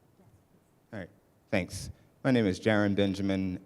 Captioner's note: voiceover